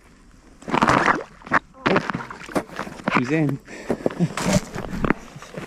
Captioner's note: splash